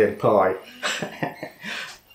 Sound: laffs

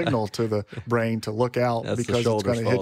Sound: laughing

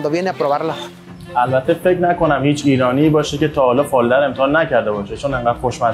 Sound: speaking in foreign language

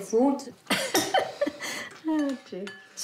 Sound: chuckles

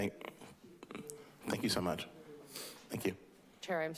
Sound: sniffing

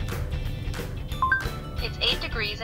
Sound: phone chimes

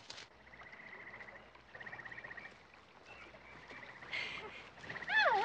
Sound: birds chirping

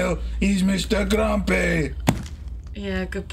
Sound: head thudding

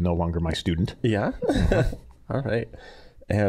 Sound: chuckling

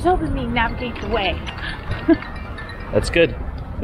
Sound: cell phone ringing

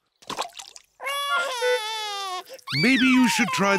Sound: cries

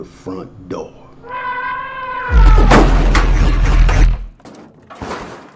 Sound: elephant trumpets

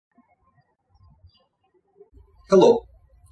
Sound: birds chirping

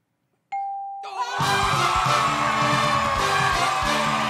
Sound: cheers and applause

